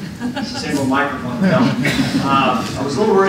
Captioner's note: laughter